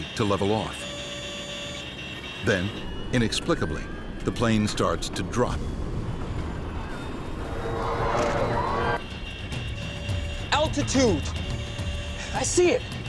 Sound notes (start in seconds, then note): 7.9 passengers exclaiming